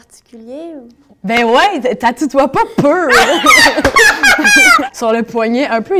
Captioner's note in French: rires